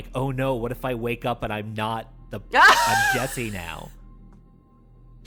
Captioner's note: chuckles